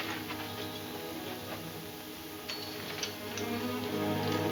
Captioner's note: spurs jingle